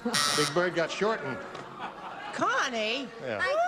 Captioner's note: laughter